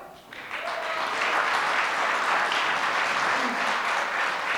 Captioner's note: audience applause